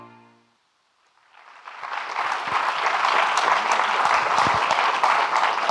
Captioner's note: audience clapping